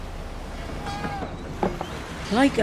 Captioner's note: dock yard noises